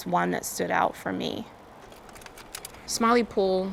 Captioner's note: film projector clicks